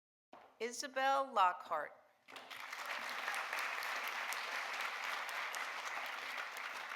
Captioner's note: audience applauding